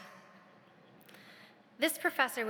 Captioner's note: audience laughs